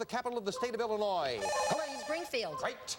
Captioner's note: buzzer